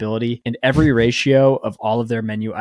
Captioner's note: chuckling